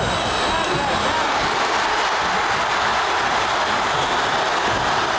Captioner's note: audience cheering